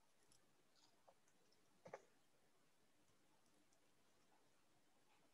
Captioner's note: quietly